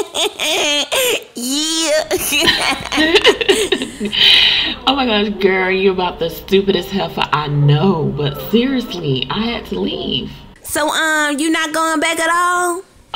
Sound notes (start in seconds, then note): 4.3 laughing